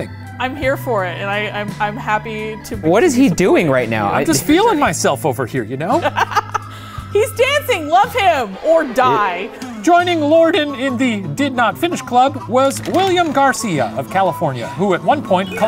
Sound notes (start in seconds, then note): 6.0 laughing